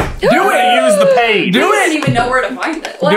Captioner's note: gasp of joy